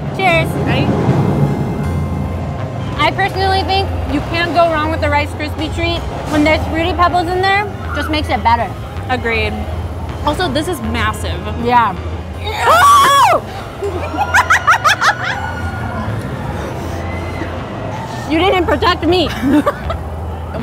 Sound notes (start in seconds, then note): 13.5 cackling; 19.6 laughing